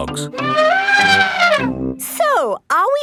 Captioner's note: trumpeting